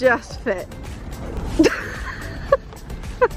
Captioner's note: laughing